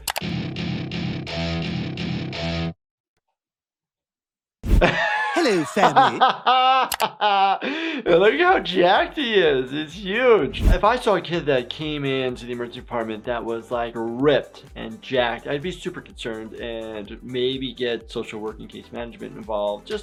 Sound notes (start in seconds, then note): 0.0 rock music; 4.8 laughs